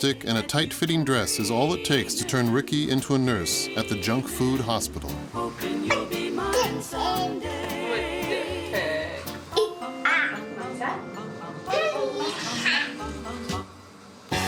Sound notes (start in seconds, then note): 11.2 baby googling